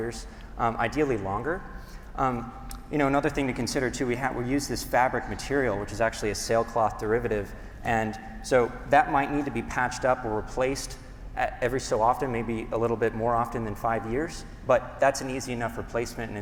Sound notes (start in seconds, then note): none